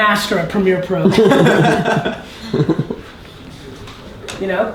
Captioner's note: laugh